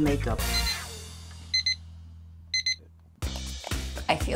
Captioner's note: alarm beeping